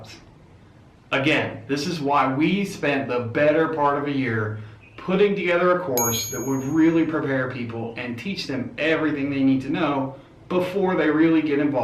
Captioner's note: ding!